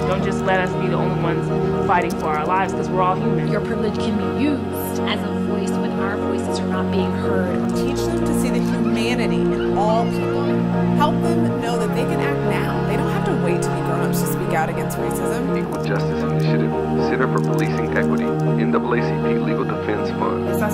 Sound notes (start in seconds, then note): 8.0 voice of a woman; 15.8 voice of a Black man